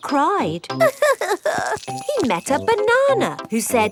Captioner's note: crying